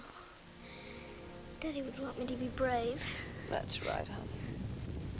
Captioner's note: volcano rumbling